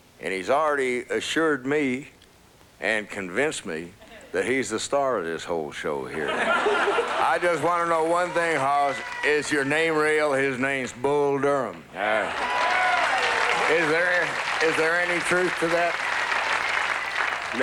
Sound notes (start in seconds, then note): 6.2 laughter; 12.1 applause